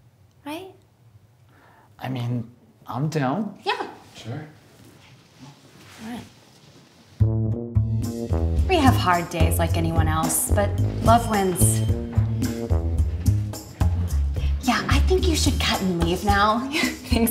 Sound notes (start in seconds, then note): none